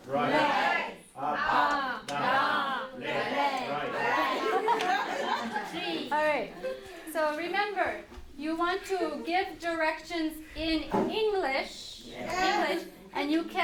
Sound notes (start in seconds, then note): 4.2 laughter